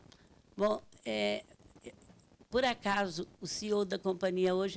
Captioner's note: speaking Portuguese